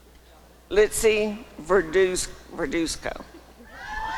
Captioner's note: applause and cheering